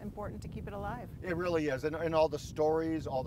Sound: wind blowing

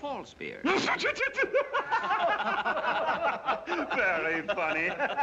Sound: laughs

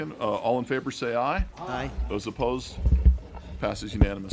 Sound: chorus of ayes

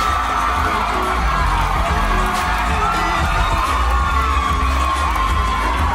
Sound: crowd Cheering

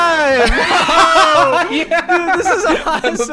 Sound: everyone laughs

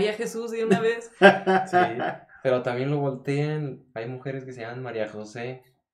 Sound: laughter

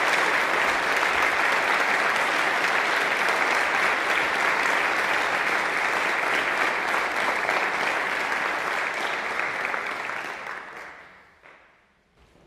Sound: clapping

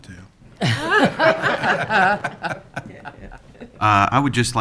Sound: laughing

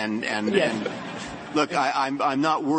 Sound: laughter

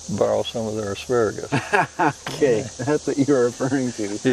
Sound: laughs

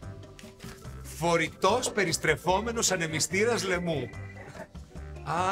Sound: laugh

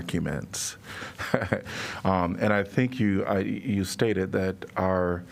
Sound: laughter

